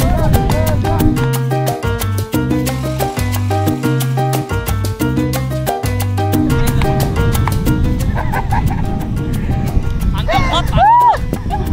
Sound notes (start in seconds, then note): 8.0 laughing